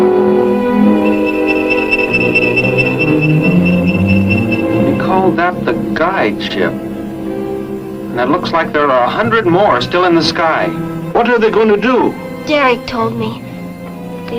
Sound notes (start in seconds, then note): 0.6 aircraft whirs; 0.7 defiant music